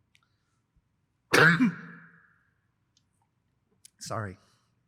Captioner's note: coughs